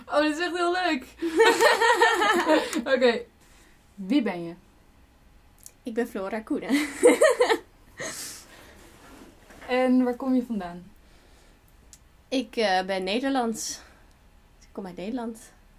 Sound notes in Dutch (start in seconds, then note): 1.2 en interviewer lachen; 6.8 lacht